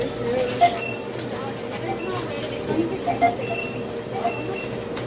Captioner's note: checkout beeping